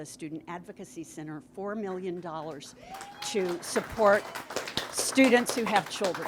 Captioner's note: audience applauds